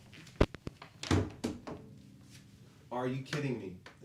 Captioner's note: guitar thuds